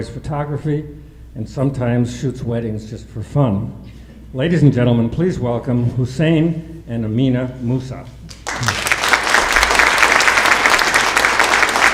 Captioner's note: applause